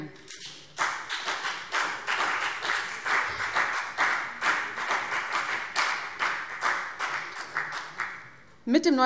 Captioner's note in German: Beifall BÜNDNIS 90/DIE GRÜNEN und CDU